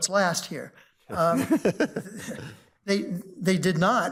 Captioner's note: justices chuckle